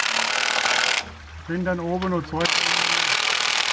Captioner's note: soft voices